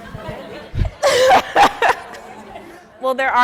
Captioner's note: audience laughing; laughing